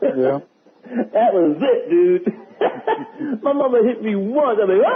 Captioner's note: laughter